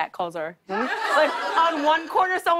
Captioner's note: laughter